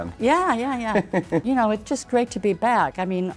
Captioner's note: interviewer laughing